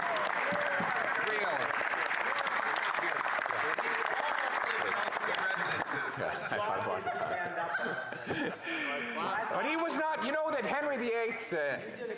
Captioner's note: some Applause